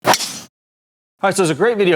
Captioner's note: golf club thwacks into ball